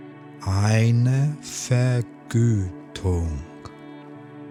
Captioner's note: german